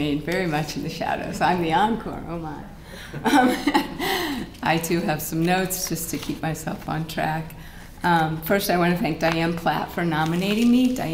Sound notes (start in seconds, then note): 3.1 laughter